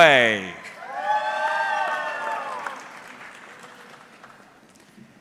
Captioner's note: audience cheering